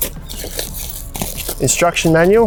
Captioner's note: plastic crinkling